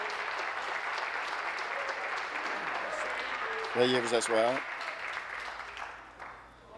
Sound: applause

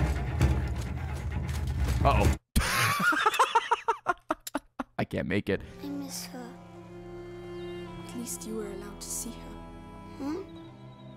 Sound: laughs

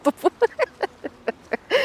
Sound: laughing

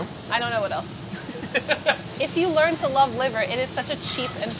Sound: laughs

